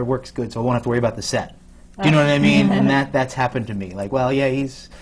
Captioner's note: laughter from the panel